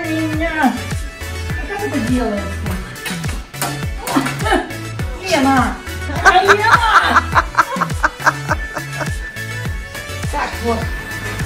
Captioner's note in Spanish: risas